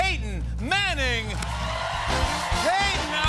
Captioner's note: cheers and applause